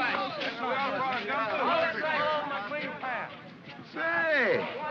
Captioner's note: men chatter and grumble